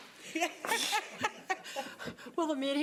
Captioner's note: laughing